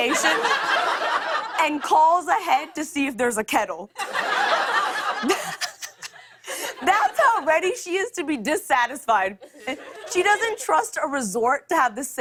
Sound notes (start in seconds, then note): 4.0 laughs